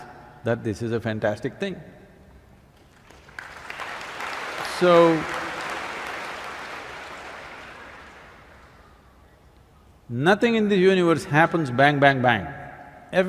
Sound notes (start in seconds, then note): 2.8 applause